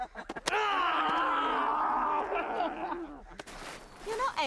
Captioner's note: men laugh